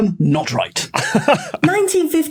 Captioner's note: laughs